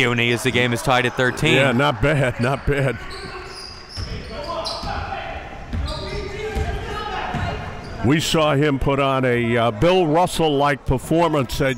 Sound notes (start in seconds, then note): 4.2 laughs; 5.0 crowd and players yelling